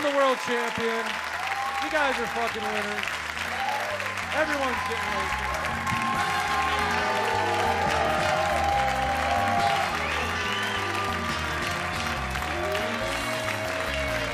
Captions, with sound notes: I'm the world champion. You guys are fuckin' amazing. Everyone's been amazing. (upbeat brassy music) (audience applauds and cheers)